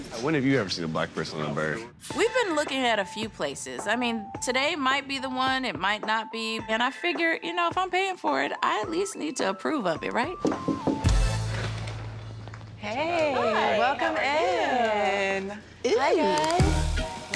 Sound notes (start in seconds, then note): 10.4 knocking